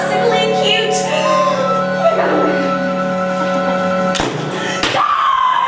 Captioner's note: gasp